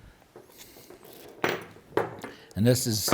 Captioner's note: bolts clanking